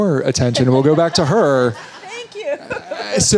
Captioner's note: all laughing